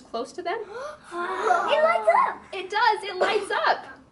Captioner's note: gasp